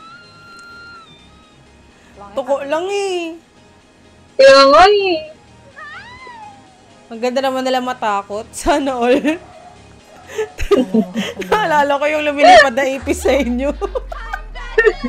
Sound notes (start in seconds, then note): 3.0 laughs; 10.2 laughs